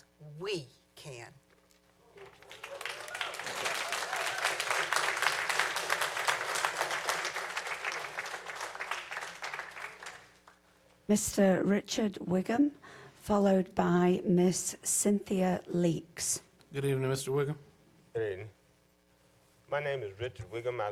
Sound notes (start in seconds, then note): 9.1 applause